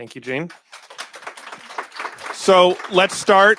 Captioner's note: applause